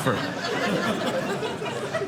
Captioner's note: audience laughing